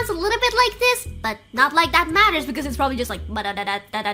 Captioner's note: high-pitched voice; imitating textbox sounds